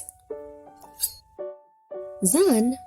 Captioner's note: shears slashing